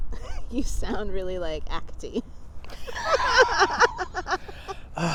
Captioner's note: laughs